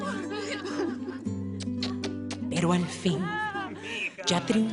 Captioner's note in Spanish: Risas y besos